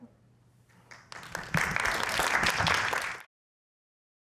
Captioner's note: applause